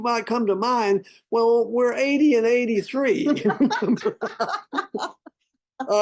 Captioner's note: both laugh